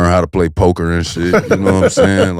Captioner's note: Maverick laughs